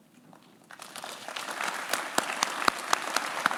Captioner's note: claps